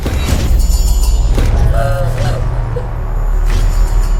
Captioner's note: mystical flashes and ringing; Distressing cries from Sakura; mystical flashes and ringing